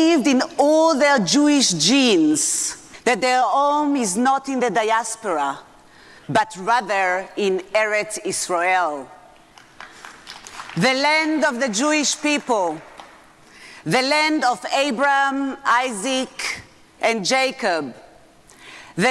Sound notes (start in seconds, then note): 9.6 audience applauding